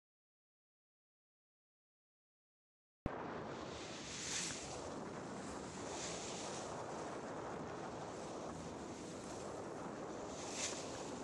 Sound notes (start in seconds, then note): 3.1 wind and sea sounds